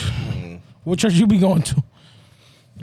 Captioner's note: sighing